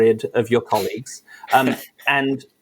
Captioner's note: laughs